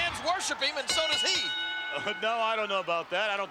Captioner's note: bell ringing